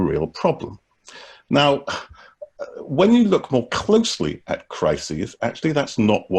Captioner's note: chuckles